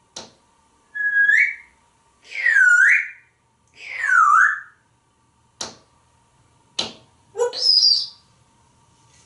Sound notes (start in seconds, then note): 0.9 whistling